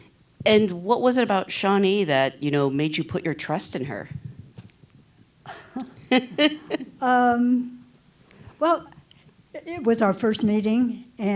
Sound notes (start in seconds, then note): 5.4 laughs